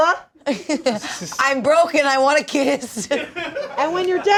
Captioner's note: laughs